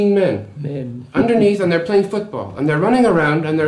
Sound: laughs

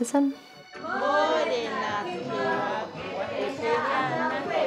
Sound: teachers recite in te reo maori

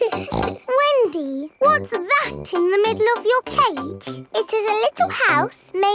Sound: snorts

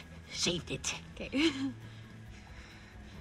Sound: chuckles

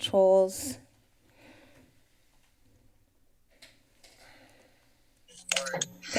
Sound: pause

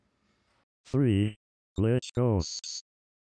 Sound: robot Voice

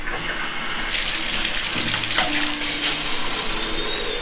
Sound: water splattering

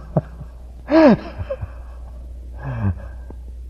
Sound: laughter

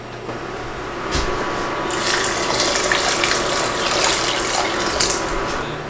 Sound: pouring water

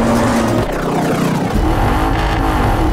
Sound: vehicle revving; vehicle revving reversed

